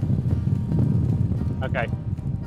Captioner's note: air whooshing